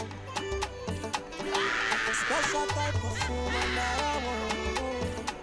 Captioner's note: laughing